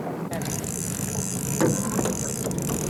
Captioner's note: water sounds